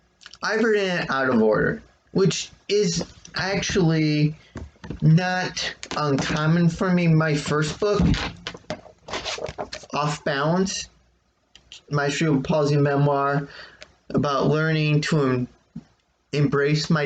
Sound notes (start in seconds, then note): 8.0 shuffling and clanking of rearranging items off screen